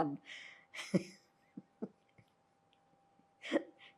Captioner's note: laughing